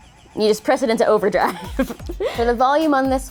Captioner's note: laughs